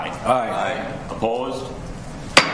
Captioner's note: multiple Voices